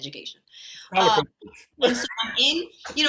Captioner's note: speaks faintly